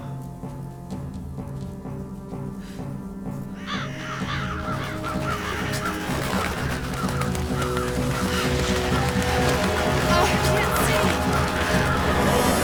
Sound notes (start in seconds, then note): 4.2 crows cawing